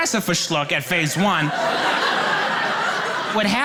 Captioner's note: audience laughing